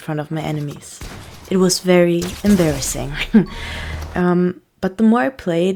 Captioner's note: chuckle